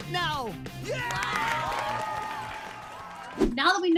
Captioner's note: crowd cheers